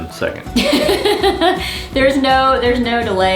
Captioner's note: laughs